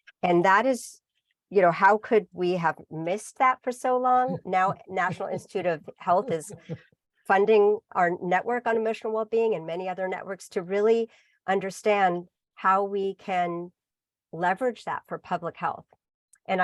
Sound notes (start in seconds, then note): 4.2 laughs